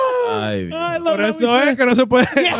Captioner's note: speaking In Foreign Language